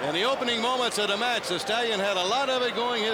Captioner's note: crowd cheering